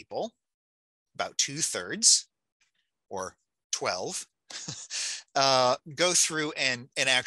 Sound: chuckling

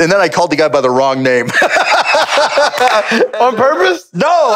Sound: both laugh

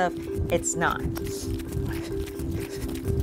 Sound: feet pattering; heavy breathing

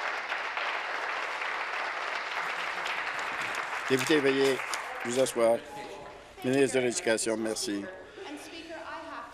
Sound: applause

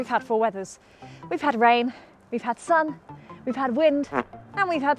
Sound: fart noise

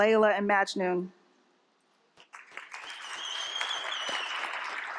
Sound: applause

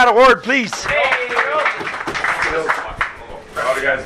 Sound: players clapping

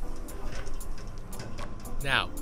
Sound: metal ladder rattles

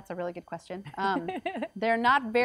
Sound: laughs

